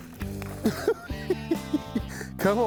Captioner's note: chuckles